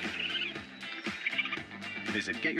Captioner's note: chattering